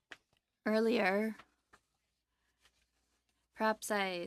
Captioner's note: speaking French